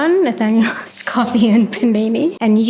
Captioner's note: laugh